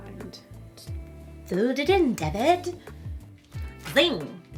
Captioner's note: Moira Rose accent